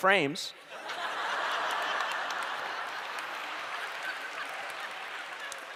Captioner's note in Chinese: 笑聲